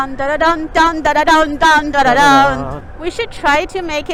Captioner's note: humming